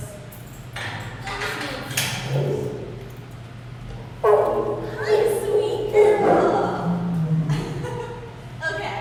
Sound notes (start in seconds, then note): 2.4 lion chuff; 4.2 lion chuffs